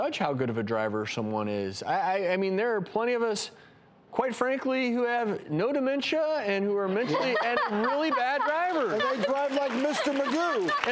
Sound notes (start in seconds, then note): 6.9 laughs